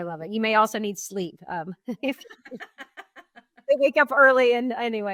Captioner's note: both laughing